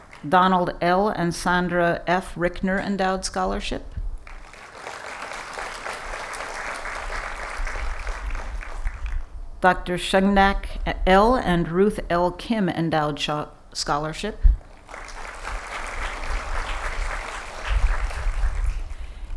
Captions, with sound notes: Donald L. and Sandra F. Rickner Endowed Scholarship [Applause] Dr. Sheng Mac L and Ruth L Kim Endowed Scholarship. [Applause]